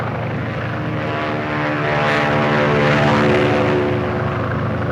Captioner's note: airplanes buzzing